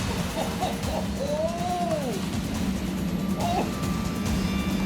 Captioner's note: Pogue guffaws